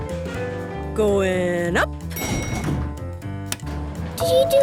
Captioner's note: elevator pings